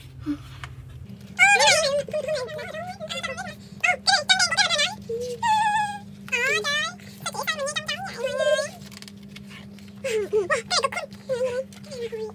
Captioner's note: another series of animal noises @~@